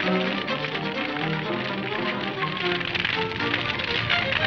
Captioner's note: fire crackling